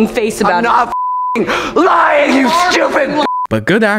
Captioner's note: beep